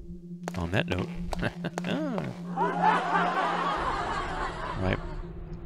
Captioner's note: laugh track; cheesy laugh